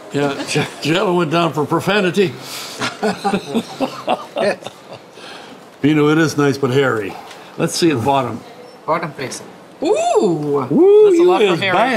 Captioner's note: all laugh